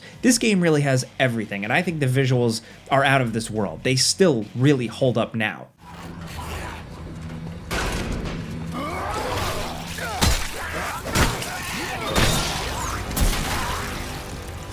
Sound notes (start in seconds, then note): 7.8 suspenseful music; 8.6 monster roaring; 11.2 gunshots